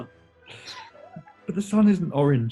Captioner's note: sniggering